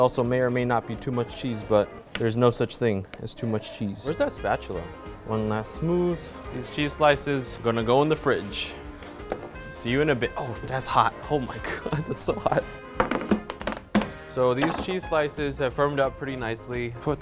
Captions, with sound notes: This also may or may not be too much cheese, but there's no such thing as too much cheese. Where's that spatula? One last smooth. These cheese slices are gonna go in the fridge. See you in a bit, oh, that's hot. Oh my god, that's so hot. (trays thud) So these cheese have firmed up pretty nicely.